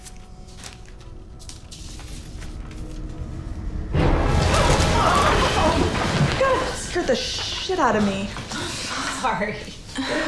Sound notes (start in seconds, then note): 3.6 tense music; 4.5 screams